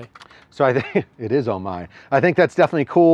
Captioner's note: chuckles